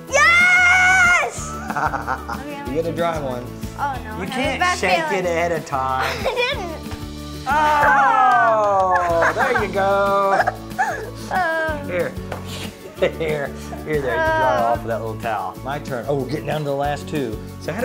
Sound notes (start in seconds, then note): 1.4 laughing